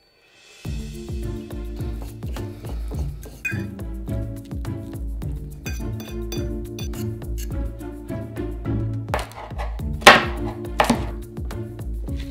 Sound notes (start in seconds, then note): 3.3 fork scrapping; 10.0 knife chopping jalapeno